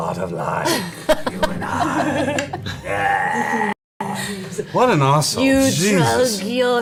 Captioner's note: in an exaggeratedly evil voice; normal voice; in an exaggeratedly evil voice